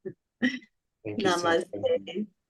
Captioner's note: chuckles, crosstalk